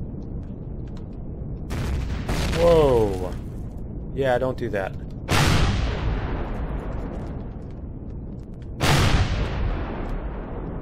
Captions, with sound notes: [explosion] Whoa! Yeah don't do that. [Rockets firing]